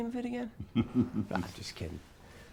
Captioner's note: Wilbert chuckling